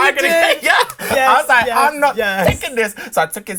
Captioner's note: laughs